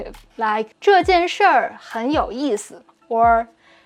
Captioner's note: speaking in Mandarin